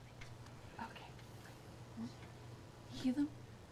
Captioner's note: whispers